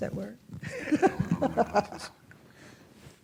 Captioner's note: laughs